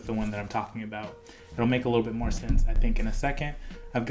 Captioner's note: bangs mic